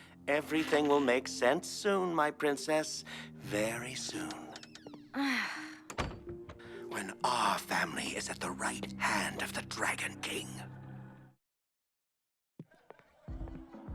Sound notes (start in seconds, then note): 5.1 Elda sighs